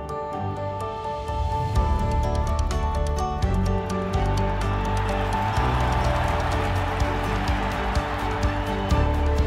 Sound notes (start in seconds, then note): 5.5 crowd cheering